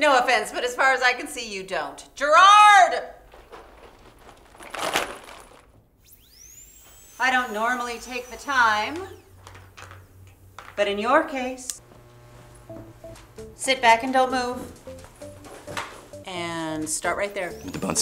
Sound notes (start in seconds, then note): 6.0 drill whizzing; 12.6 upbeat music